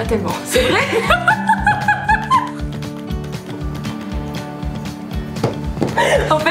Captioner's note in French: rires